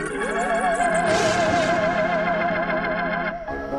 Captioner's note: scary music; thunder